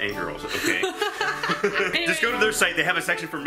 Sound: laughing

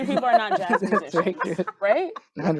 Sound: group laughing

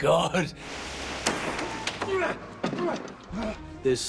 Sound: grunting

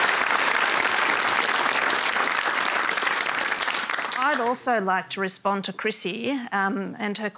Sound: applause

